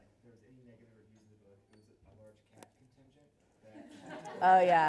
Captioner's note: laughs